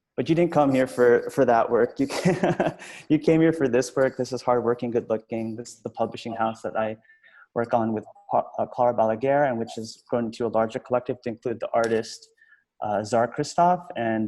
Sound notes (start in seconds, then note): 2.0 laughs